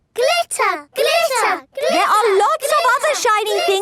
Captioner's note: chanting